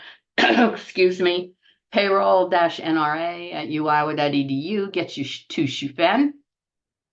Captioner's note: cough